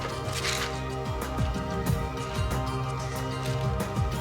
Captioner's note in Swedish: piller skramlar